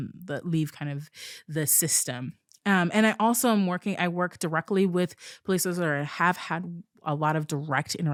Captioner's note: none